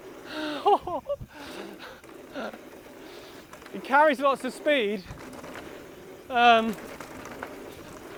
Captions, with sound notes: (laughs) It carries lots of speed,